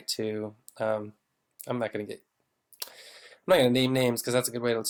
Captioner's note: sighs heavily